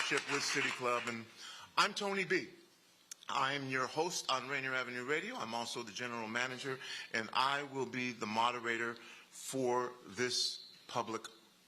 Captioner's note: applause